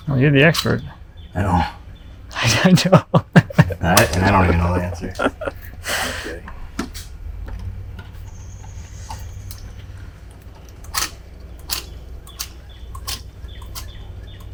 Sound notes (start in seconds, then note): 2.3 laughs; 8.2 bird twittering; 10.4 sealant gun clicking